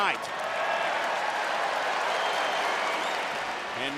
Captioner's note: fans cheer